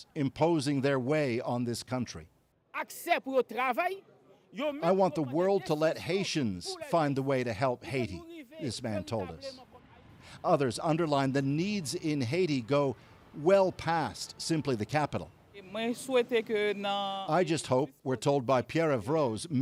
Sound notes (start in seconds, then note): 11.2 speaking alternate language